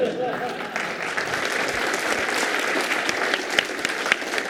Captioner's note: applause